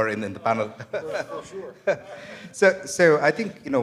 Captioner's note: laughter